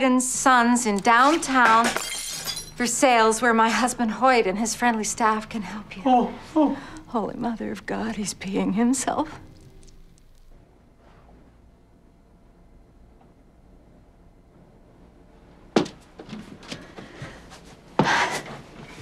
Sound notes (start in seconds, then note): 1.3 breaking glass